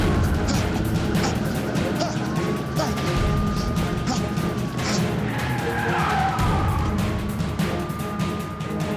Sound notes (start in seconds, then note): 5.7 tires squeal